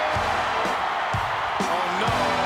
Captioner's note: crowd cheering; upbeat music